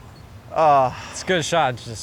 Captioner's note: groans